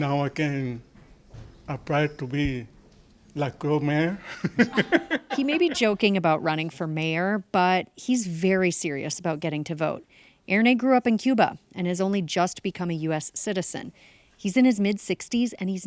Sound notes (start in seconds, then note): 4.2 laughing